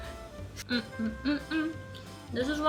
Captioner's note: happy sounds; laughs